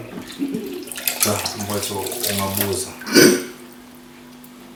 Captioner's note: Zulelihle clears the throat